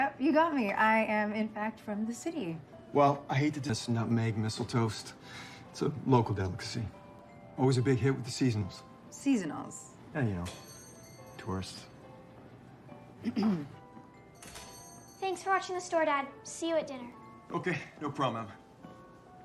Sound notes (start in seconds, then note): 13.2 clearing throat; 14.1 bell ringing